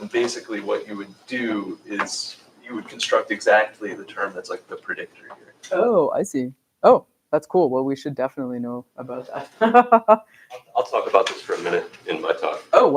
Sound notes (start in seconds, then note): 9.4 laughs